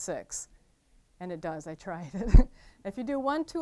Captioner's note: laughing